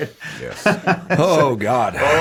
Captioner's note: Jaime laughs